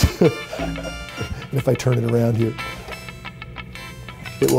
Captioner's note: chuckling